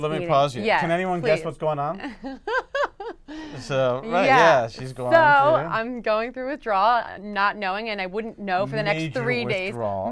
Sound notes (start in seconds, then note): 2.1 laugh